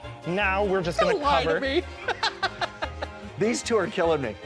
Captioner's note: laughs